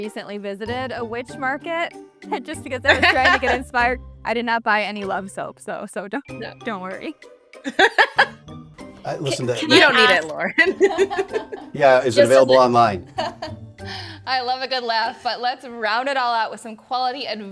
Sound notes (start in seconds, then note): 2.8 guest laughs; 9.2 laughs